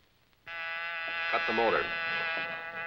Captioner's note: buzzing